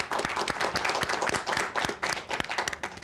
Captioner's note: applause